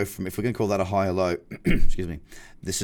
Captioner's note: clears throat